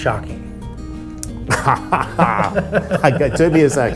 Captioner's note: both laughing